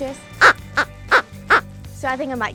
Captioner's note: squeaking